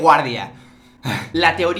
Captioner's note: ahhh